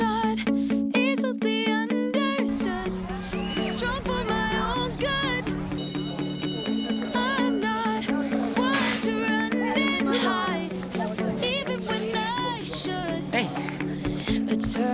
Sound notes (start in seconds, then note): 0.0 upbeat rock music; 5.5 school bell rings